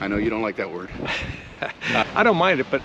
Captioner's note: laughs